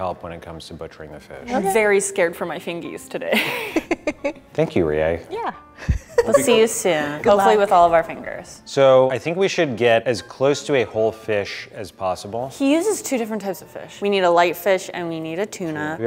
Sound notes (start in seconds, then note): 3.4 laughs; 5.8 laughs